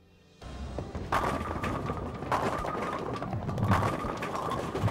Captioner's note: pins crashing